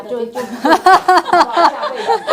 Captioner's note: ahaha